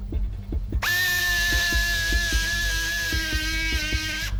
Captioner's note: anxious music; drill whirring